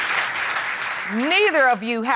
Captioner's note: audience applauding